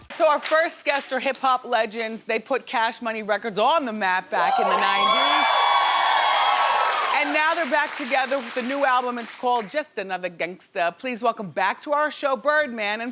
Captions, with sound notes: So our first guests are hip hop legends, they put Cash Money Records on the map back in the 90's. (audience cheering) And now they're back together with a new album, it's called Just Another Gangsta. Please welcome back to our show Birdman